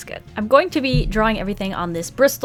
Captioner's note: none